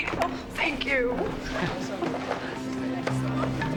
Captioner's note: Joe chuckles